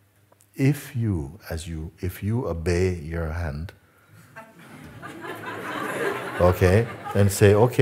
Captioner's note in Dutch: gelach